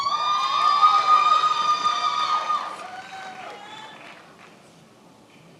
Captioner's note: attendees applauding and cheering